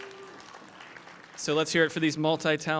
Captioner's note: applause